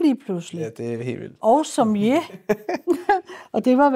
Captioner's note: laughter